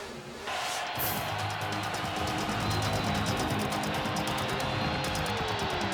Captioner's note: crowd cheering; light dramatic music